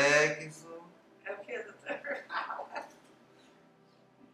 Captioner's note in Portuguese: risos